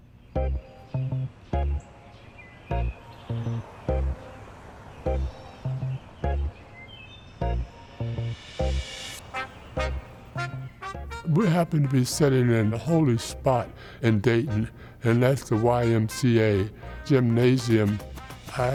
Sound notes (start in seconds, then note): 0.0 birds chirping; 0.6 fragmented radiating music; 3.5 traffic droning; 5.6 birds chirping; 5.6 fragmented radiating music